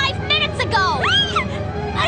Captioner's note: shriek